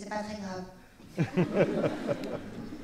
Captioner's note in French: rires